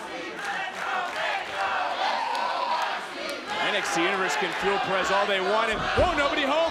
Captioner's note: applause